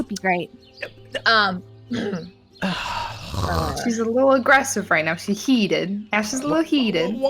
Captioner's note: sigh